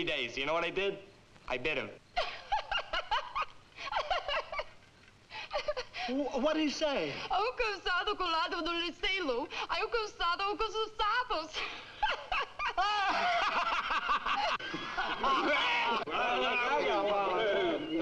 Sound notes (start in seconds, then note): 2.0 Nona laughing; 7.6 Nona speaking in foreign language; 11.6 all laughing